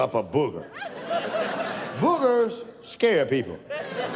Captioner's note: audience laughs